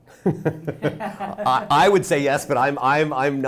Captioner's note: laughs